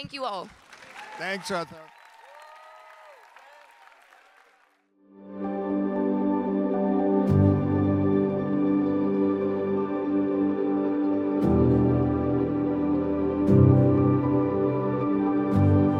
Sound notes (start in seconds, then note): 0.1 audience applauding and cheering; 5.4 inspiring music